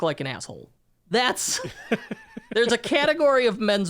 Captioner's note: laughing